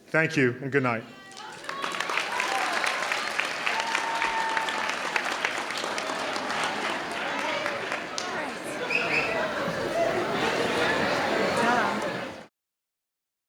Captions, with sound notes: Thank you and good night. (audience clapping)